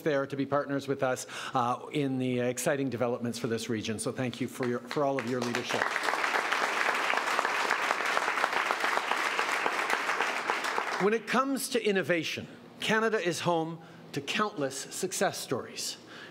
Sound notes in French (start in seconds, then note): 6.8 Applaudissements